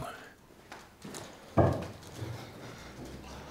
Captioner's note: rattling